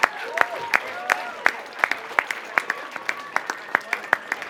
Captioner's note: cheering and Applause